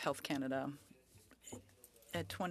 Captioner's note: speaking in French